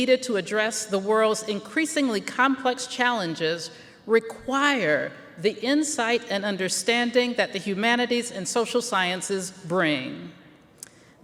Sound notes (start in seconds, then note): none